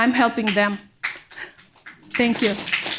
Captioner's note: audience clapping